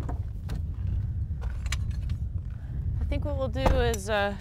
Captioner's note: car doors close